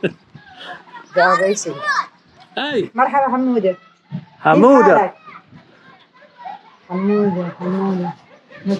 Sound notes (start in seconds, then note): 3.0 speaks in foreign language; 5.5 children chattering distantly